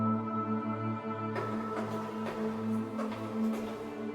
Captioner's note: footsteps